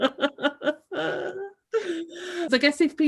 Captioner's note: laughs